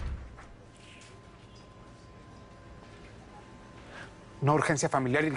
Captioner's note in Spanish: Portazo